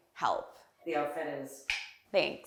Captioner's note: snapping fingers